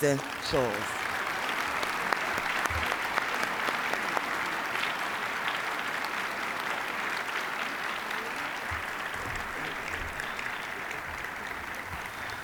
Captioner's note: applause